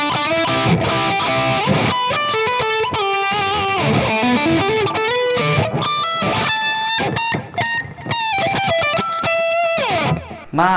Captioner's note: applause